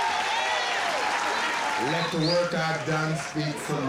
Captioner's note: cheering